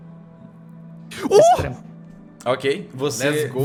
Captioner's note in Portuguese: gritinho animado